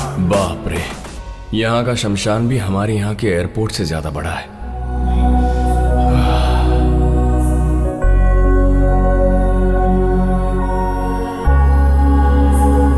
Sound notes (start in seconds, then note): 4.8 gasping